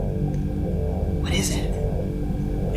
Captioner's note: whispering